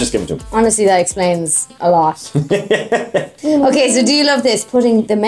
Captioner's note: laughs